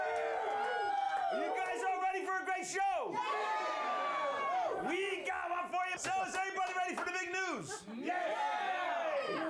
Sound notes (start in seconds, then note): 0.0 audience cheering